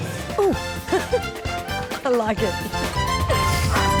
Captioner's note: laughs